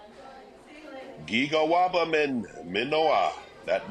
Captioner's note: speaking in foreign language